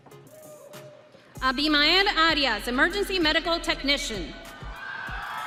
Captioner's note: audience cheering